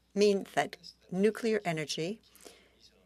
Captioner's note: speaking French